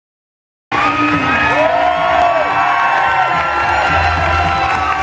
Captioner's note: applause and cheering